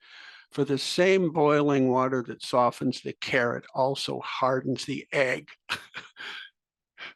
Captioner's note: laugh